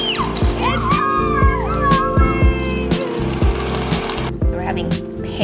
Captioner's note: girls screaming; girls laughing; girls celebrating; lively music